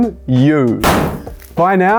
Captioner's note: confetti pops